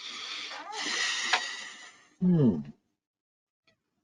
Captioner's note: exhales softly